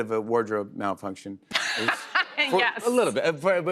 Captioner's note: laughter